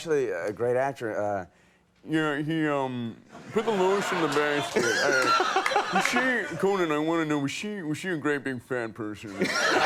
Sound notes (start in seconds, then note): 3.5 Conan laughs